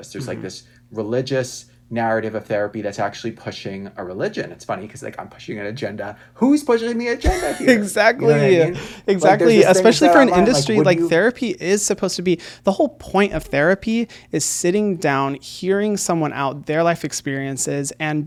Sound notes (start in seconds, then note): 7.2 laughs